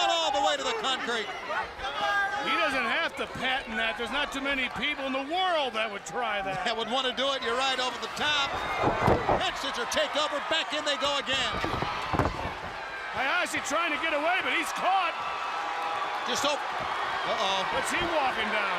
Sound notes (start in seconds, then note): 3.3 crowd chatter; 16.0 crowd chatter